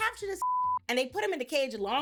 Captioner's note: beep